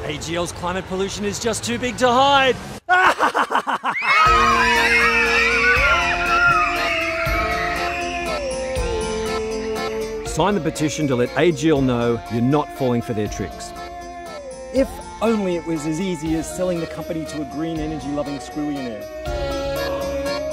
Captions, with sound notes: AGL's climate pollution is just too big to hide! *evil laugh* *children screaming* If only it was as easy as selling the company to a green energy loving squillionnaire.